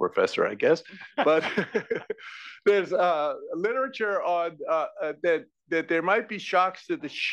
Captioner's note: laugh